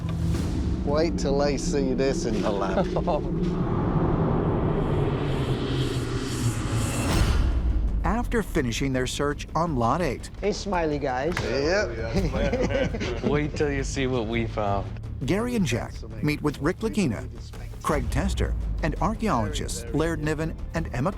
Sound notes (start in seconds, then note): 2.4 laughs